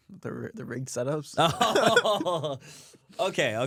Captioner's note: laughs